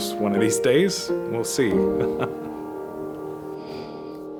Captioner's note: chuckling